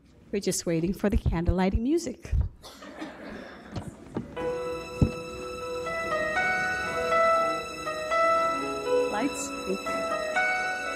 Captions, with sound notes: We're just waiting for the candle lighting music. (audience laughs) (inspirational music) Lights, please.